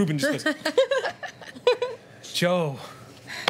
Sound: laughing

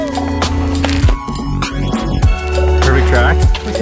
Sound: skis slap

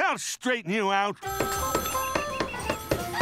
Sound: phone ringing

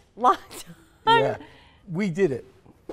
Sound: laughing

